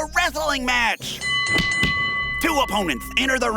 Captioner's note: bell Ding